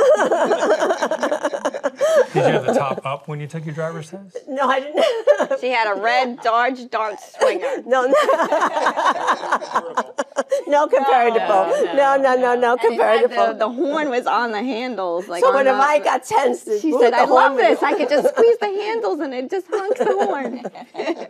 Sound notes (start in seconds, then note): 0.0 Jane laughing; 9.2 Jane laughing